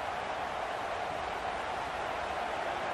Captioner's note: crowd cheering